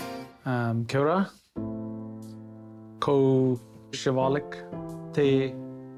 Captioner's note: reading Māori language